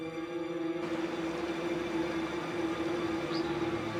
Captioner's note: water rushing